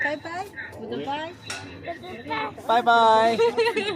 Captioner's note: boy speaking in English